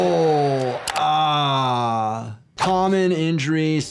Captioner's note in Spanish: clics del ratón